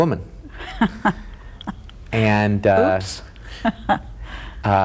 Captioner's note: laughs